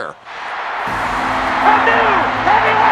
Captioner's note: audience roars